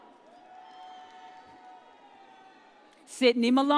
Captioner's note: audience cheers